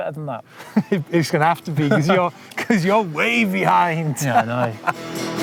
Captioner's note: laughs